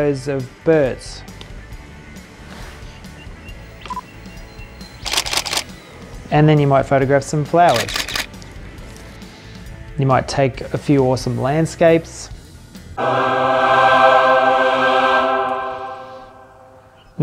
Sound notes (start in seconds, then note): 5.0 camera shutter clicks; 12.9 choir sings Ahhhhhh